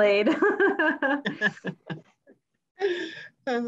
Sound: laughs

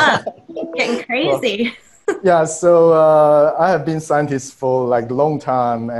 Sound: chuckles

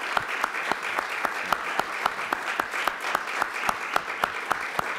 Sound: applause

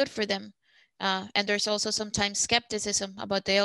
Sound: speaking Spanish

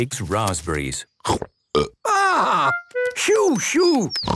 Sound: burps

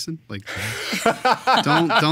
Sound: all laughing

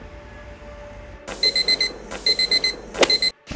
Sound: alarm beeping

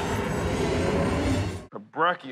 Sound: roars

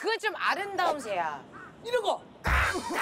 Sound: caw caw caw

